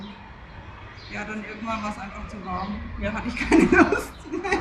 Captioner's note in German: gelächter